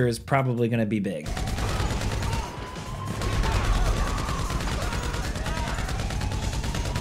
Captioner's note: in-game gunfire and police sirens